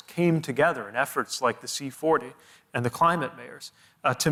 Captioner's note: none